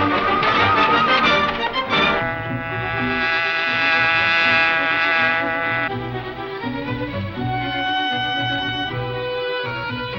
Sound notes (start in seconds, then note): 1.6 buzzing; 6.6 lively music